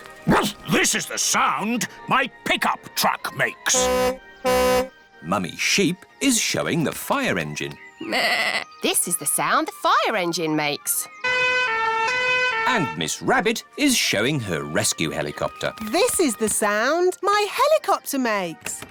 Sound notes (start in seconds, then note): 0.3 barks; 3.7 tooting; 8.0 bleats; 11.2 siren blaring